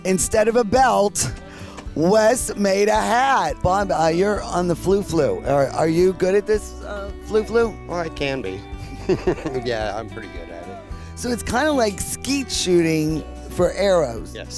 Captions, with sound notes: - Instead of a belt, Wes made a hat. - Bob you're on the the flu flu. Are you good at this flu flu? - I can be (laughing), yeah, I'm pretty good at it. - So it's kinda like skeet shooting for arrows.